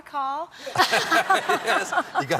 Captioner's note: laughter